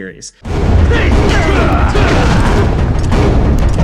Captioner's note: Ganon and Link grunting; dramatic music